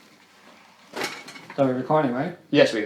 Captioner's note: metal clangs